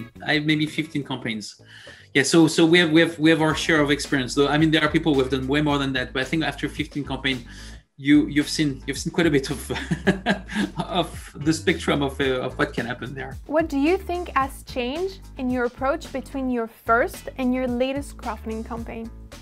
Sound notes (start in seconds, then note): 9.6 laugh